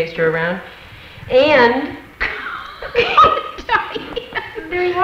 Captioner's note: women laugh